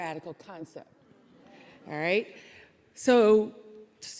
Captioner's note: audience chuckling